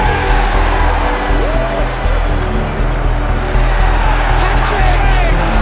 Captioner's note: crowd cheers